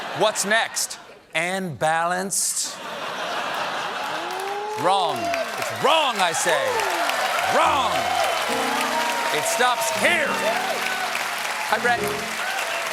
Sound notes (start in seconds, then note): 4.4 applause; 4.4 laughter; 7.5 applause